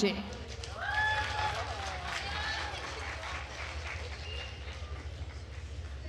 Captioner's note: attendees cheering and applauding